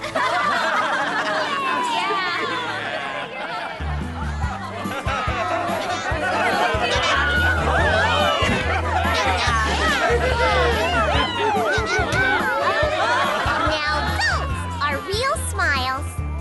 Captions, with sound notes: [laughter] [happy chatter] Now those are real smiles.